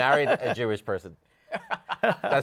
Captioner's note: laughter